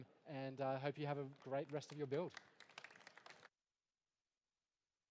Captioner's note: applause